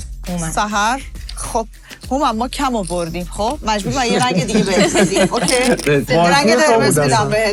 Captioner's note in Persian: خنده